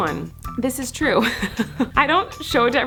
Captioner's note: laughs